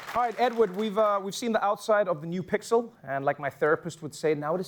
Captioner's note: applause